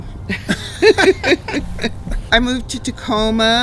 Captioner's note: both laugh